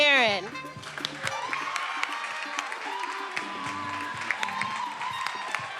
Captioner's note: attendees cheering and applauding